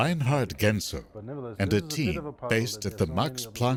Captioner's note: voiceover